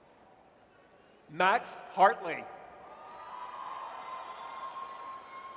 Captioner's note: audience cheers